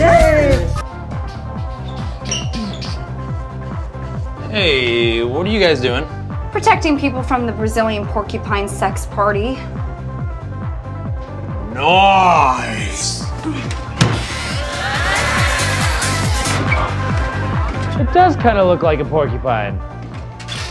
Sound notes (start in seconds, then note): 1.1 humming; 9.7 techno music continues; 14.0 cheering, louder music